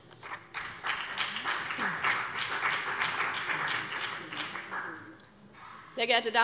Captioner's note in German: Beifall BÜNDNIS 90/DIE GRÜNEN und CDU